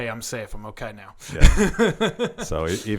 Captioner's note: laughing